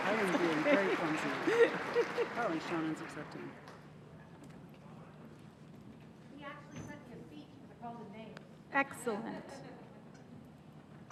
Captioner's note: applause